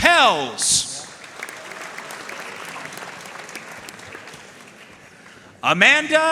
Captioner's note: audience cheering and applauding